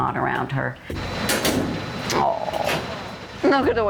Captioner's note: laughs